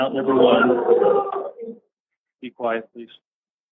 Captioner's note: audience exclaiming